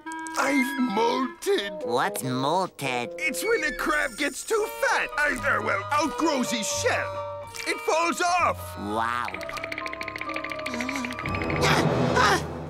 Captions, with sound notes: I've molted. What's "molted"? It's when a crab gets too fat. Uh, oh, well, outgrows his shell. - It falls off. - Wow. [teeth chattering] Ah, ah!